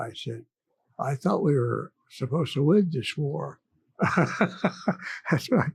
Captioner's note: chuckles